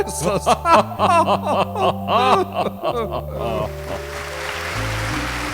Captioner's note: chuckling